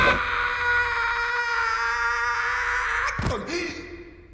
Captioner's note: wailing; hollering